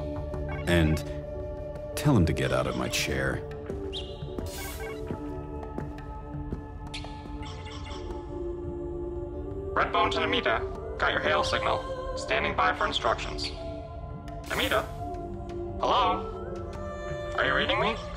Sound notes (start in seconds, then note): 3.8 communicator hailing signal; 9.6 voice of Ahanu on communicator